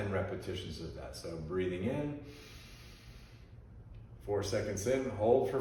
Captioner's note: inhales